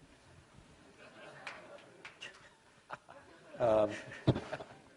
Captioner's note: laughter